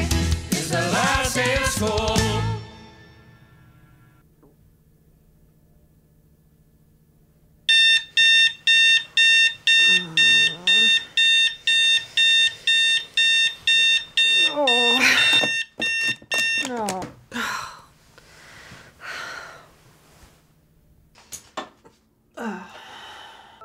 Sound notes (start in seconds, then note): 7.7 alarm beeping; 9.8 Alex groaning; 14.8 Alex groans; 14.8 alarm beeping; 16.7 Alex sighs; 22.3 Alex groans